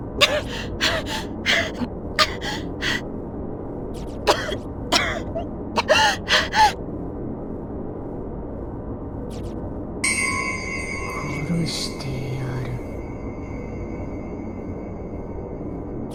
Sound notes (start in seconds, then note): 0.2 out of breath; 7.6 cough